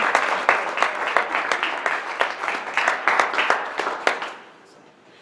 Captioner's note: audience clapping